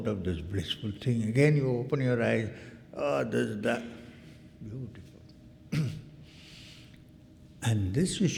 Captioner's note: clears throat